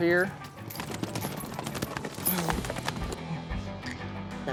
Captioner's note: hoof beats